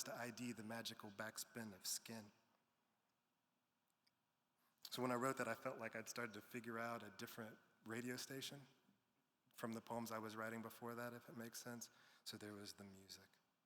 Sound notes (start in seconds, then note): none